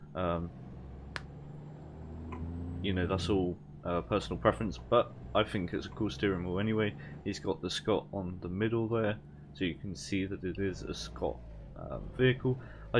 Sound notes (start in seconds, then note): 1.0 knuckle crack